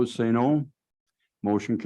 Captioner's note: silence